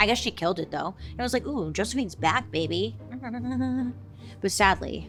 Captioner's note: chuckles